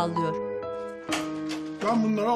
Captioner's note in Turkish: Müzik - Duygusal; Kapı açılma sesi